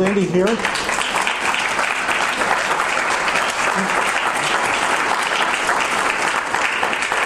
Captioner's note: audience applause